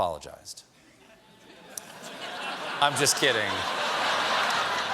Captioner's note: laughter